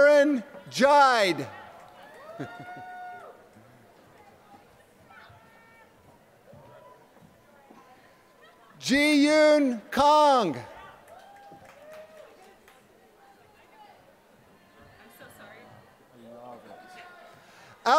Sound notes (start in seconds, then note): 0.0 applause; 4.8 laughter; 10.6 applause